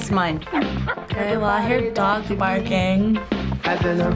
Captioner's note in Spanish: perro ladrando